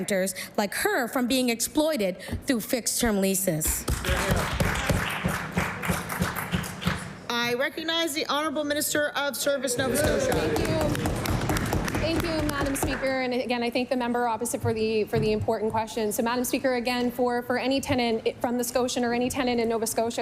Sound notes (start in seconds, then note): 10.3 applause